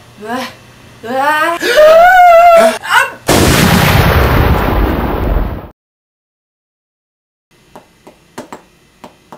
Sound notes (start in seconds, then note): 1.5 gasping in Terror; 3.1 sneezes in Explosion